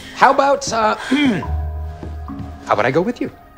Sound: clears throat

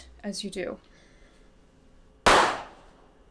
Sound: gunshot

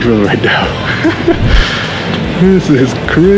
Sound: chuckling

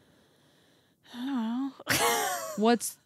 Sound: laughs

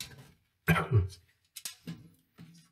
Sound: clears throat

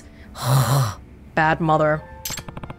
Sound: throat noise

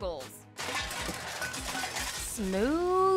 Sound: crash sound

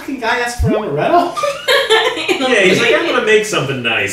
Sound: laughing

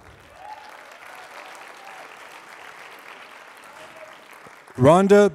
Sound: applause

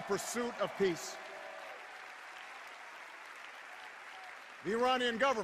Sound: cheers

